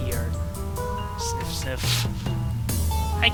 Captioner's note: sniff sniff